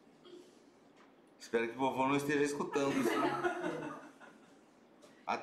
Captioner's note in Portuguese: risos